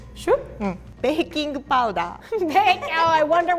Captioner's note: both giggle